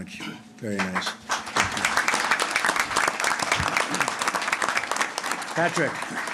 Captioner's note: applause